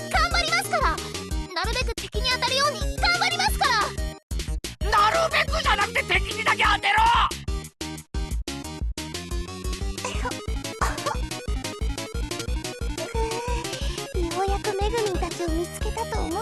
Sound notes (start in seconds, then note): 10.6 cough Cough